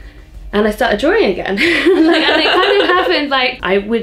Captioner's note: laughs